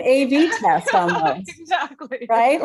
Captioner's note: laughs